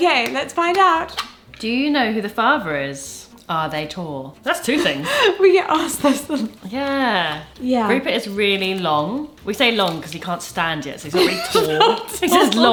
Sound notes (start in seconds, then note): 4.8 chuckling; 11.1 laughs